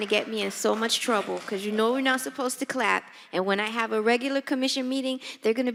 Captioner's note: applause